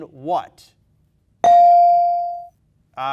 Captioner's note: bell dings